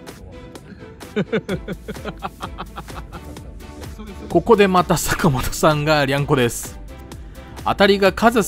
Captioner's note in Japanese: 笑い